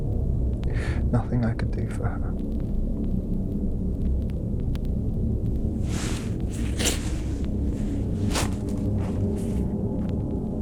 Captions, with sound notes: Nothing I could do for her. (leaves rustling)